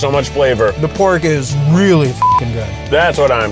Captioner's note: beeps